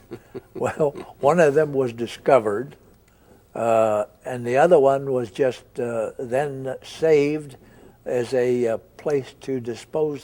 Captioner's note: both chuckle